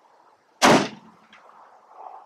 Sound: slamming hood of truck

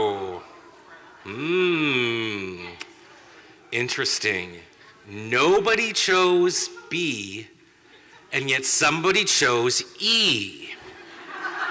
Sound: laughter

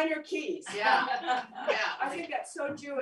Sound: laughter

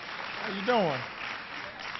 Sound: applause

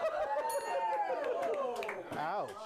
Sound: laughter; bell rings

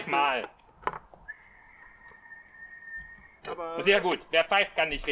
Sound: whistles

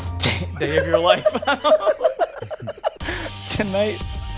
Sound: laughter

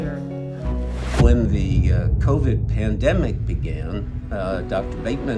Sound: low booming noise; tense music building

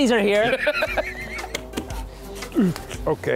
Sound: laughing

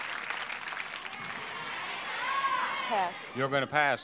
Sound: audience chattering

